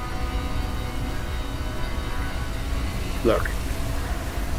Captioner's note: siren wailing